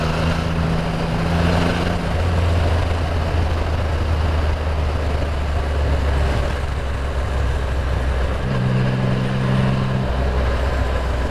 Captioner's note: engine Noise